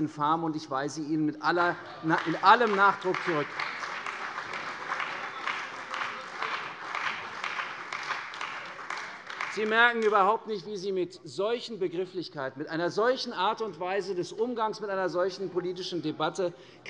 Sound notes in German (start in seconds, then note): 3.7 Beifall bei der CDU und dem BÜNDNIS 90/DIE GRÜNEN